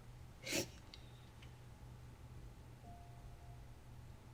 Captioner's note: sniffles